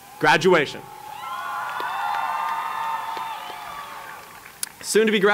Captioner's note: cheering